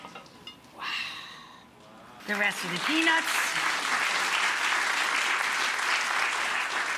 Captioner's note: audience applauds